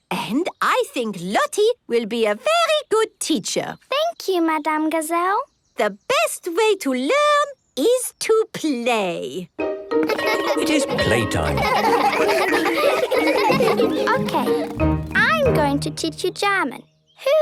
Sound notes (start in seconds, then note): 10.0 laughter